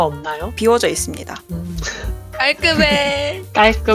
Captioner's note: laugh